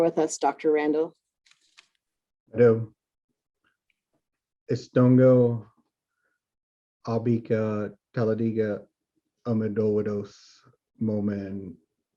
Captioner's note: introduces self in native language